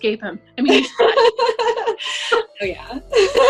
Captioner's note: laughing